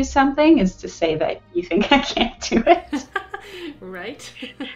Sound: laughs

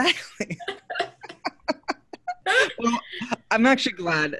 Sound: everyone laughing

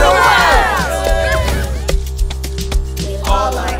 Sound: cheering

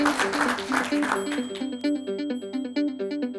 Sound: applause

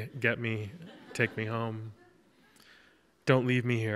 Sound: audience laughs

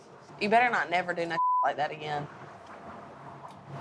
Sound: beep

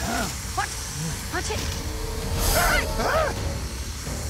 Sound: hissing

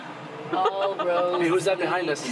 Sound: laughing

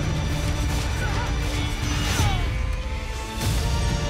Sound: soldiers yelling and groaning

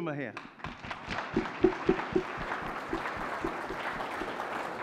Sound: audience clapping

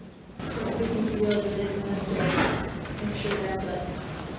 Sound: speaks distantly

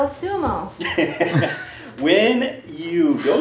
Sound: laughing

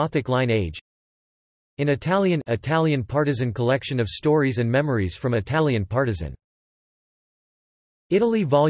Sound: in Italian

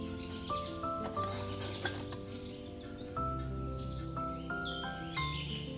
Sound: scrapes

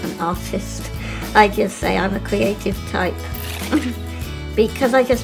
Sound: laughs

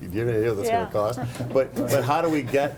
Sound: laughing

